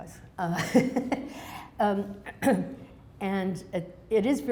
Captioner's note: laughs